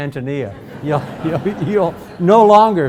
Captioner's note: audience laughs